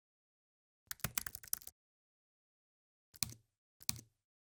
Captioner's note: keyboard clicking